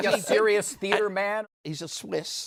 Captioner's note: none